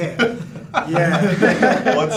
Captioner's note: all laughing